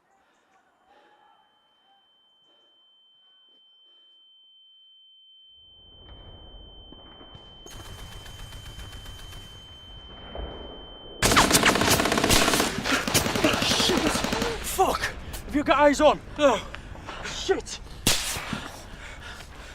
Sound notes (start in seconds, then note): 7.6 sounds of gun shots